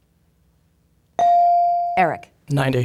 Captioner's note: bell dinging